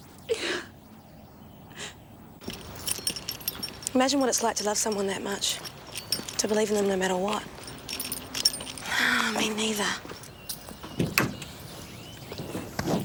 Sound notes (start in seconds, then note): 8.7 sighs